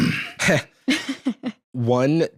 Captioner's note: laughs